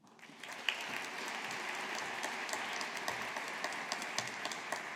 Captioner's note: audience applauding